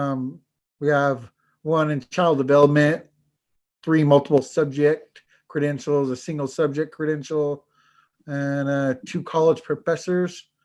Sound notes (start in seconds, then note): none